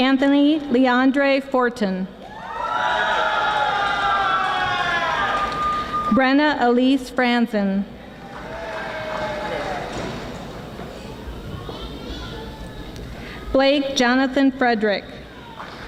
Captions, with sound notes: Anthony Leandre Fortin. (audience screaming) Brenna Elise Fransen Blake Johnathan Frederick.